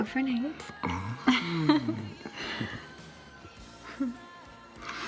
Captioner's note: both laughing